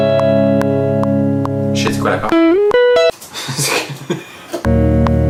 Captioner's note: laughs